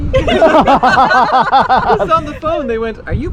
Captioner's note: laughter